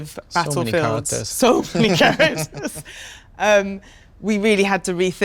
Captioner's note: laughs